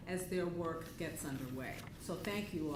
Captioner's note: none